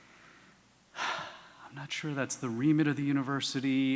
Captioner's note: sigh